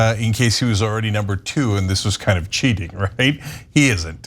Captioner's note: laugh